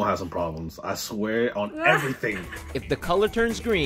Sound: laughs

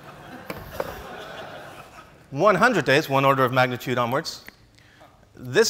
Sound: laughs

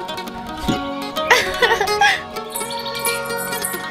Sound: laughs

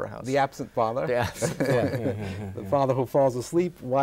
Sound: laughter

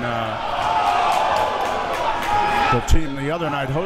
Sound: crowd members shouting

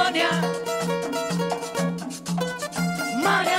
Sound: none

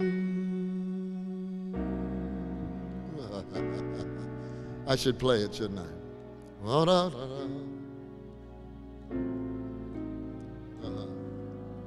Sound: chuckling

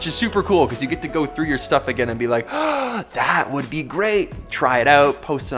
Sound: gasps

